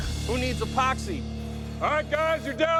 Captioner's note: laughs